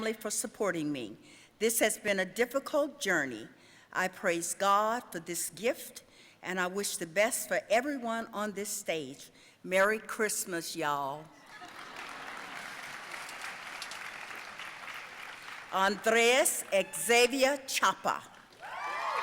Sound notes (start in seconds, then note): 11.4 audience laughing and applauding